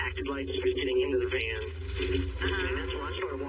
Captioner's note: on phone